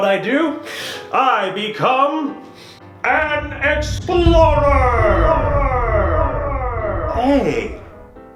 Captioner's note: echos